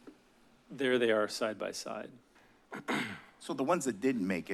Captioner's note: clears throat